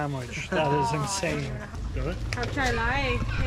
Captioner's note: laughs; speaks foreign language